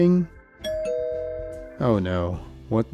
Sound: ding Dong

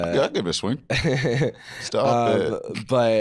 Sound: chuckling

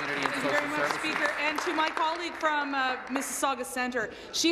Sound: applause

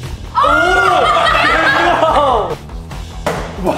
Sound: all laughing

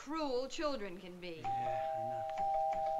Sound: doorbell rings

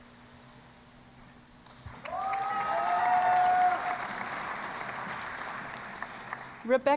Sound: cheering and Applause

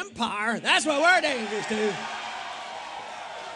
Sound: cheering and applause

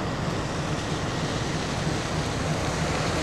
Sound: engine noise

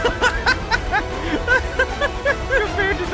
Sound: laughing

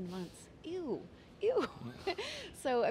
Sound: laughs

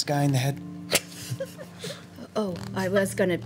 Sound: laughs

